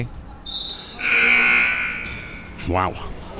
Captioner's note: buzzer sounding